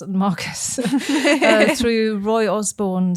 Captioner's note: group laughing